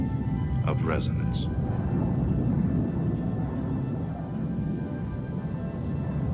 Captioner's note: low rumbling as wind blows